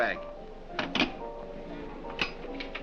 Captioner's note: phone clanks